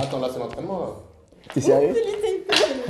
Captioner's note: laughs